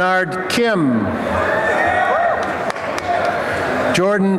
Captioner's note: applause and cheering